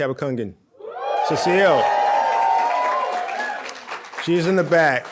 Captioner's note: audience cheering